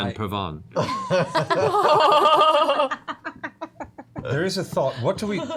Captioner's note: laughter